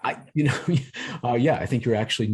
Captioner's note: laughter